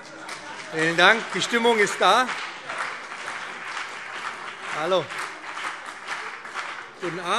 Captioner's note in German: Beifall BÜNDNIS 90/DIE GRÜNEN und CDU